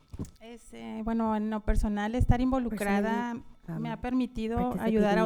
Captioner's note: panelist speaking in Spanish